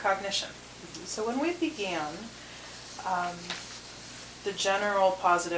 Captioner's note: papers rustling